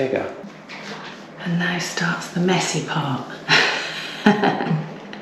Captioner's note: laughter